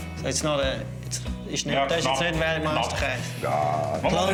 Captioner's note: speaks german